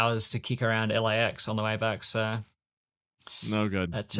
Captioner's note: inhales